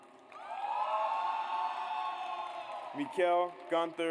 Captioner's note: audience cheers